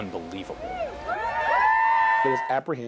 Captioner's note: crowd cheering